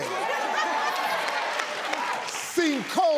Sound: laughter

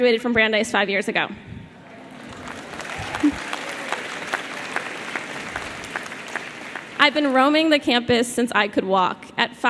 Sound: applause

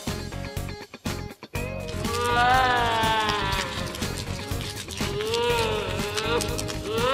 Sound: distorietned baby crying

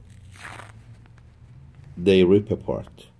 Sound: interlining ripping

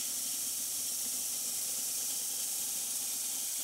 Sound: saw whirring

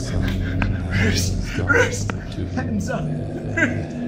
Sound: man babbles

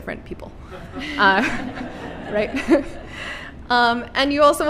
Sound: laughter

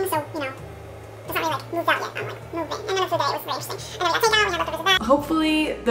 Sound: indistinct chipmunk sounds

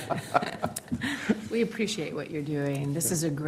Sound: laughter

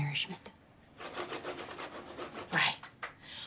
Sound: pen scribbling

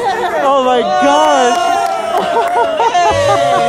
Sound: cheering; laughing

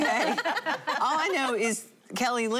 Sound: laughing

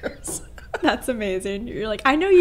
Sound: laughing

